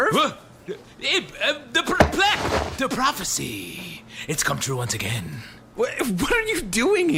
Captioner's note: bewildered stammering